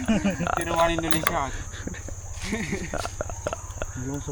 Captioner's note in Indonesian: tertawa